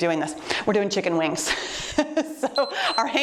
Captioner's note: chuckles; timer beeps